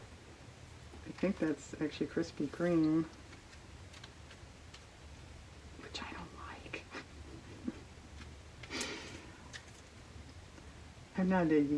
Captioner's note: whispers